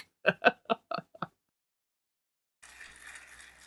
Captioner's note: laughing; audience applauding